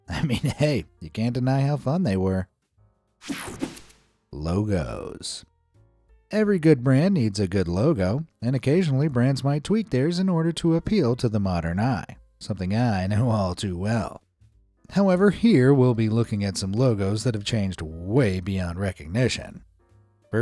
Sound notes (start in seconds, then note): 3.3 air fizzing